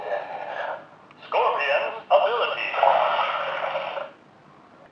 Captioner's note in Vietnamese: poison liquid sound